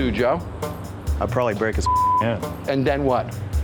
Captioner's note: beep